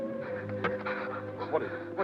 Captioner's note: Pilar breathes heavily